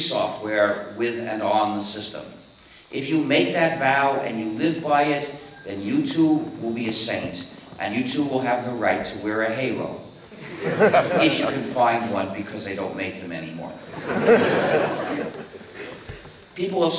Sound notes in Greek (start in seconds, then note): 10.3 Δυνατά γέλια από το ακροατήριο; 13.8 Γέλια από το ακροατήριο